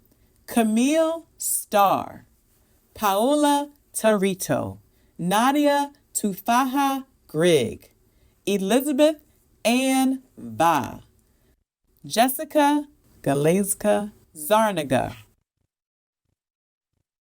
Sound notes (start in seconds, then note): none